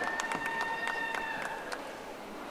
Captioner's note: audience applauding